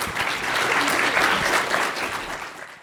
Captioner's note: applause